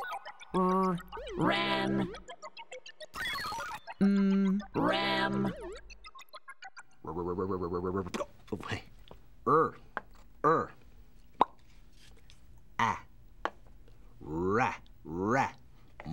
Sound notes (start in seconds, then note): 0.0 sounding out words in computer-generated voices; 6.6 repeating "r" sound; 9.3 repeating "r" sound; 12.2 making short "a" sound